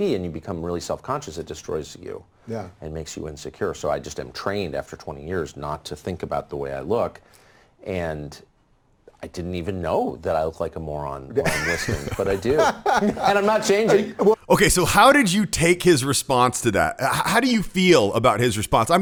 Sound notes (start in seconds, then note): 11.4 Dave laughs